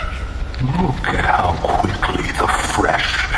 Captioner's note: laughing